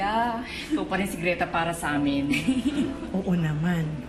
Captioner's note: chuckles